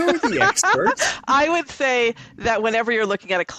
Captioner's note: laughs